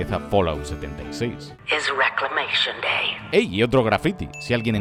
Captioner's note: robotic voice